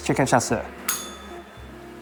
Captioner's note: bell rings